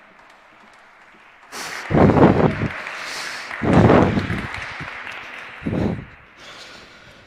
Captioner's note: applause